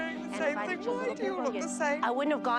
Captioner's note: cries